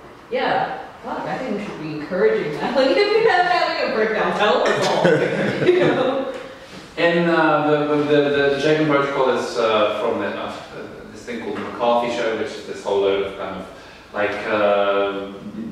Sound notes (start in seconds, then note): 4.6 laughing; 4.7 audience laughing